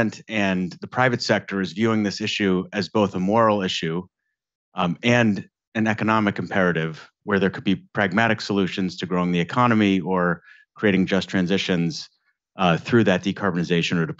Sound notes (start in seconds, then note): none